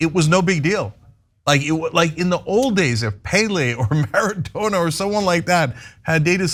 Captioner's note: laugh